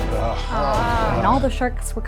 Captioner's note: presenters groan; dramatic music